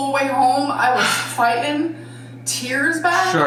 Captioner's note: sighing